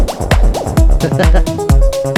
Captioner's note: laughs